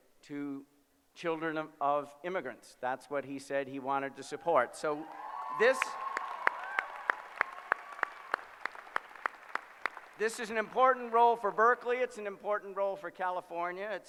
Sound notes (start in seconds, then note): 5.0 applause